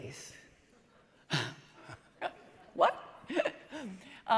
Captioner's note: laughs